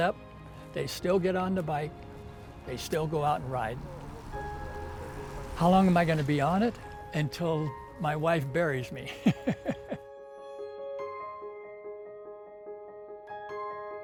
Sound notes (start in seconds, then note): 9.1 laughing; 10.7 peaceful soft music